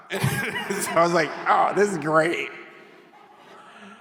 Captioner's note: chuckles